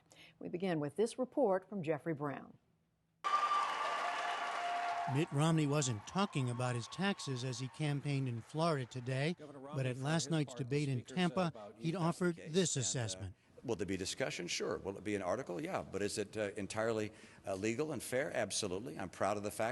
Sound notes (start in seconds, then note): 3.2 cheering and applause